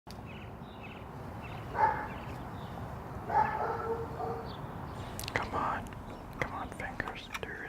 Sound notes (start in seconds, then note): 3.2 dog barking